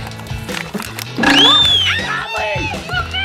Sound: whistle blows

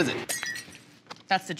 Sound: glass smashing

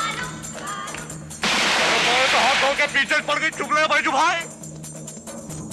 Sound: gunshot

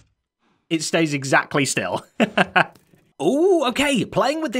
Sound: chuckles

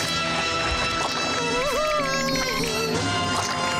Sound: whimpering

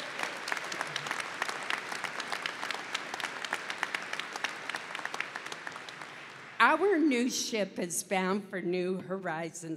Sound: applause

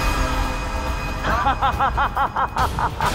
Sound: evil laughter

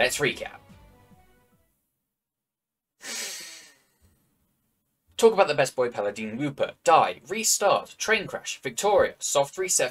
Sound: deep breath in

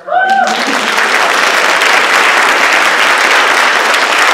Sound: cheering, applause

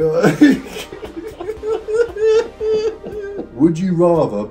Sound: both lauhging

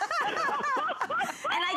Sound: laughter

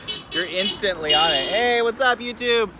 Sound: car honking

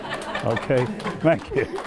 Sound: laughing

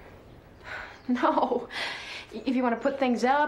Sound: chuckles

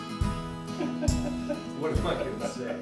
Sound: laughing

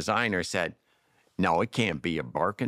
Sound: mimics molly

